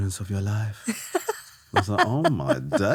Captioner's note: laughing